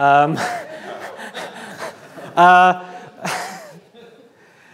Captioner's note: audience laughs